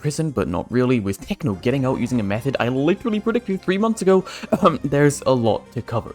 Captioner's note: ahem